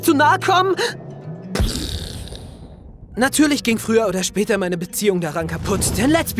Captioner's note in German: Explosionsgeräusch